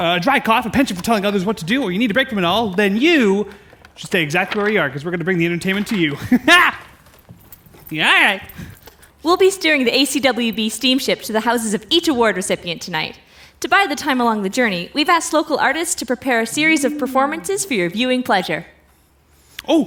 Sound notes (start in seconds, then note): 8.3 sneering